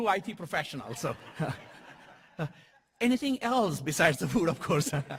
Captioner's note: laugh